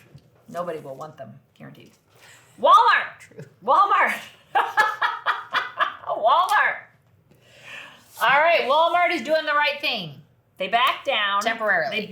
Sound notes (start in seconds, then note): 4.6 laughs